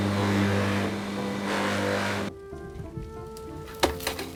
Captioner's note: grinding; quirky music